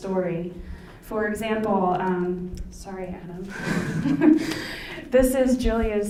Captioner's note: laughs